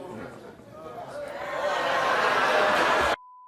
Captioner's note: audience vocalizes